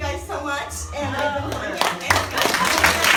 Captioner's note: applauding